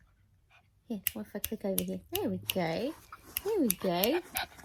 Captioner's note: dog pants; clicking continues; clicks fingers